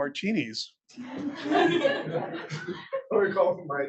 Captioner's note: attendees laughing